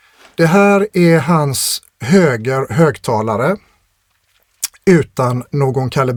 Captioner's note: clears throat